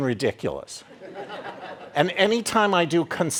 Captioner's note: audience laughing